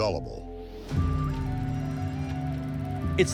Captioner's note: dramatic music; machinery whirring